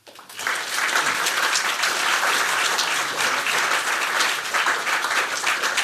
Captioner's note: applause